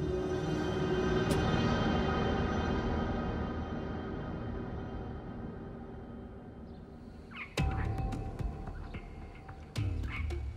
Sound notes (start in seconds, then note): 0.1 somber music; 6.6 birds chirping